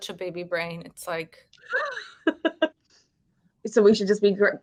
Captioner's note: woman laughing